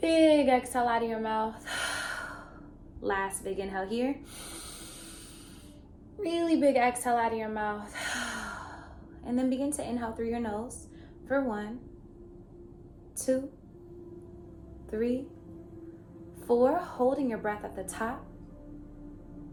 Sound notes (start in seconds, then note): 1.6 exhaling; 4.3 inhaling; 7.9 exhales